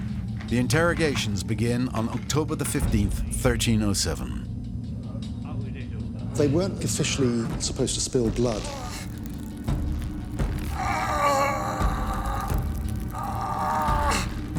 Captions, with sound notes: The interrogations begin on October 15th, 1307. They weren't officially supposed to spill blood. (ropes creaking) (groans)